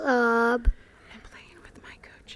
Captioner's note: whispered